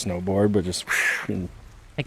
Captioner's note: sliding sound